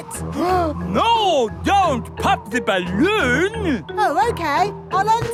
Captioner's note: gasps